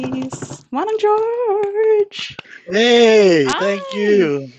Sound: imitates drum roll

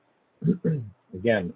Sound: clears throat

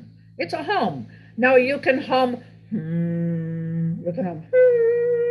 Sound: humming

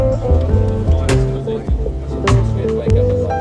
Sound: quiet chatter

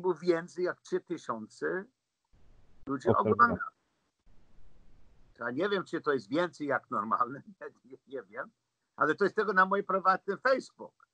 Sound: laughs

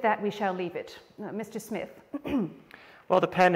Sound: clears throat

